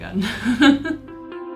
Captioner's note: laughing